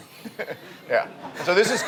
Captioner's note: audience laughs